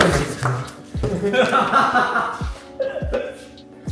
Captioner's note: laughing